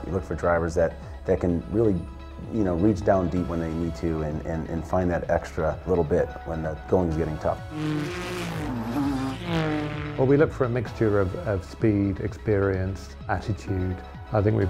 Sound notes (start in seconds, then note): 7.6 car engines